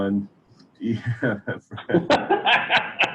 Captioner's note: laughing